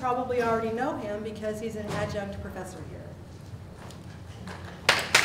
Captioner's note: applause